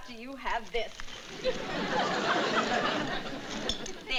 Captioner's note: audience laughing